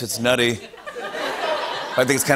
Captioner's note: laughter